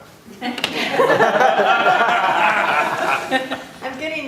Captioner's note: laughter